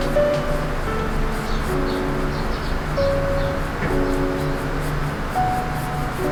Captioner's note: birds singing outside the window